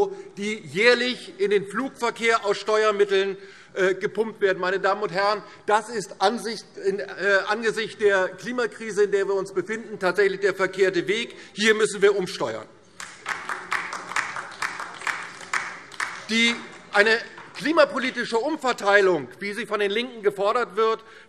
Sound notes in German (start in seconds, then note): 12.9 Beifall DIE LINKE